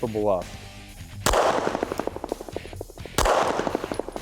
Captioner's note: gun firing